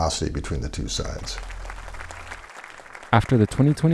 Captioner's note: people clapping